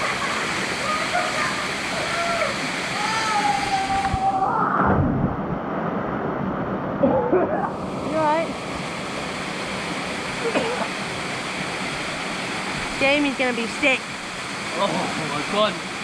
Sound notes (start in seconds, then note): 0.7 guys shouting - splash; 5.1 gushing water; 10.4 coughing